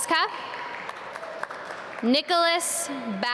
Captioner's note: audience clap